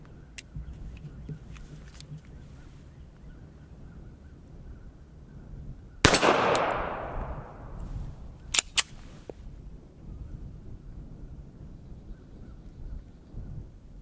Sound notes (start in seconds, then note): 6.0 pistol fires